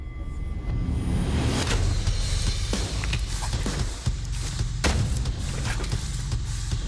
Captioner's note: impact sounds